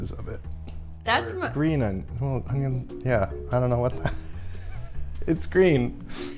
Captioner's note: laughs